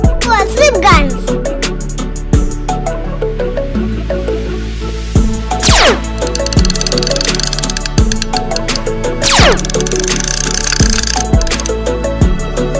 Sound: music and shooting weapon sound

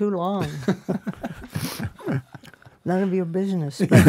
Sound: all laughing

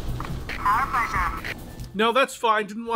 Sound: HANNIBAL PILOT over the radio

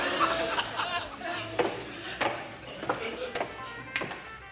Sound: audience laughs; footsteps

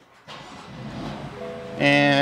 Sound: engine revs

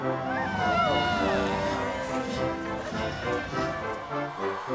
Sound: cheering

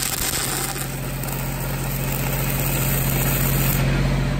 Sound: engine rumbling

